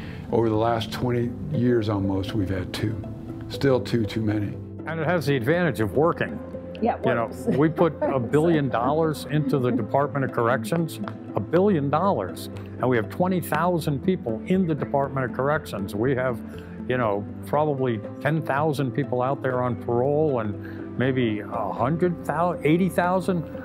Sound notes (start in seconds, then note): 7.5 laughs